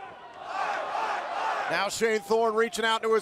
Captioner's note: fans chanting